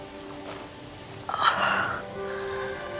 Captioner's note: groans; stöhnt